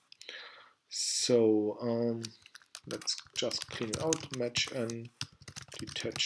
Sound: typing

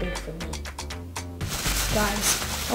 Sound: bag rustles

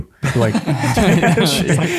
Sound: all laughing

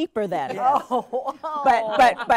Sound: laughing

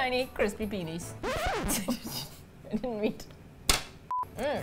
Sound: record scratch; both laugh

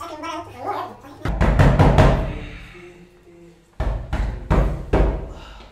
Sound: knocking

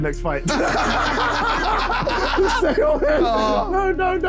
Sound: laughing

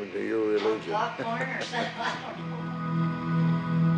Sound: laughs

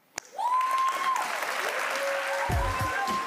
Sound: attendees cheering and applauding; upbeat music

